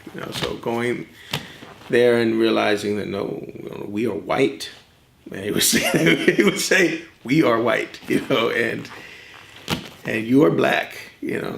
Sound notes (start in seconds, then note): 5.7 laughs